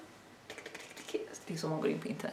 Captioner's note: keyboard clacking noise but make it disgusting